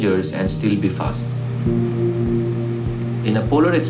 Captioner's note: engine revving at a distance